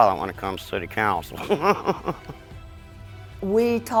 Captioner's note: laughs